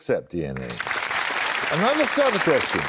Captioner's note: applause